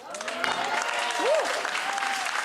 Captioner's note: audience excitedly clapping